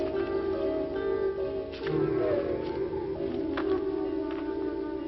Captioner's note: branches snapping